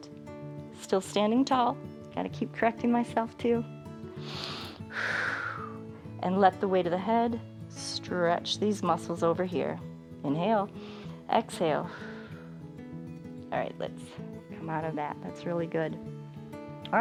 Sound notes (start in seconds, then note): 4.1 inhales and exhales; 11.9 inhales; 11.9 exhales